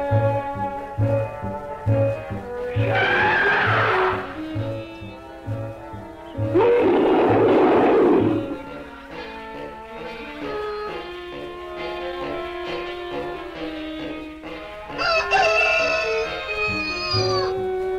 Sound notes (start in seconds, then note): 6.4 Pete roaring; 14.8 Pete crowing